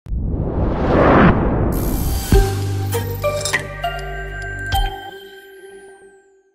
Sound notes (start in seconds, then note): 0.0 whoosh; 1.7 intro music